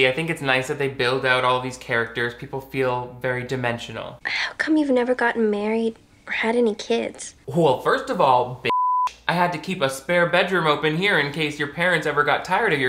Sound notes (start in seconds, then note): 8.7 beep